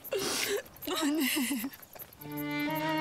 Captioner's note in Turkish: Ağlıyor